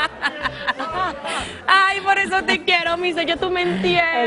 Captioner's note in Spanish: risas